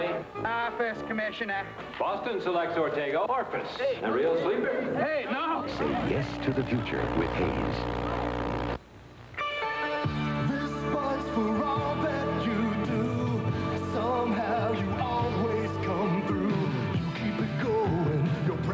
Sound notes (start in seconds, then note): 7.9 audio distortion from VHS tape; 9.3 rock guitar intro